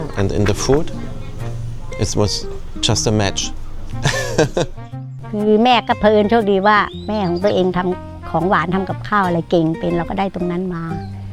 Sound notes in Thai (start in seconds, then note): 4.0 เสียงหัวเราะ